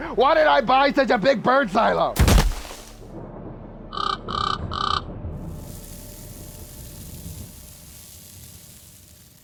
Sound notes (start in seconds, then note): 2.2 lands with a loud thud; 3.9 bird caws